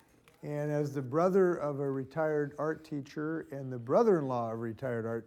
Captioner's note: none